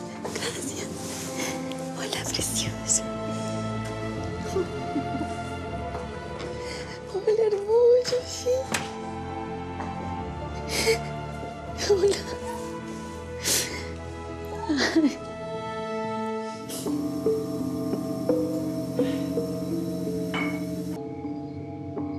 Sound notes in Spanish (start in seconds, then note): 4.4 solloza; 10.6 solloza; 14.4 solloza; 19.0 sollozos